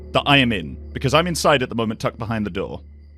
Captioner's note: none